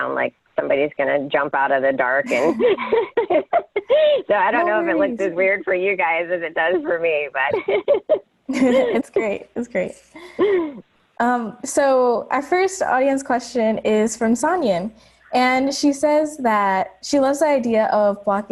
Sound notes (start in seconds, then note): 2.2 laughs; 6.6 laughs